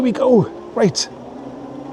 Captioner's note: laughs